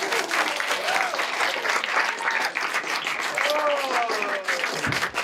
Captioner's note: audience applauding